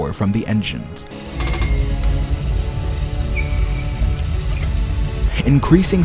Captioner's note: engines hiss and heavy rumble of gears